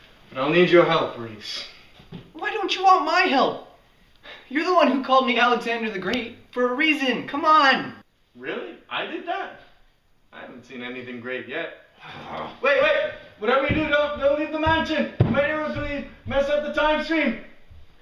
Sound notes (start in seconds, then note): 12.0 Alex growls